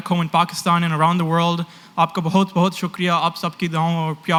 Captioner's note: non-english